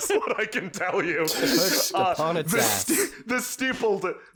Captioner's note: laughter, incoherence